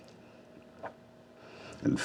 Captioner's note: gulps